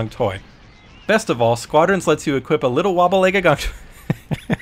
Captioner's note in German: Lacht